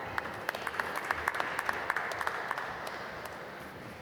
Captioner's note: applause